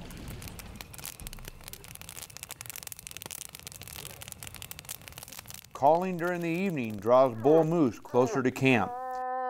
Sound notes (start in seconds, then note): 2.2 fire crackling